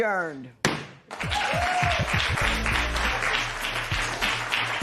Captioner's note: cheers and applause